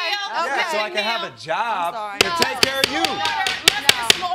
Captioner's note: gavel banging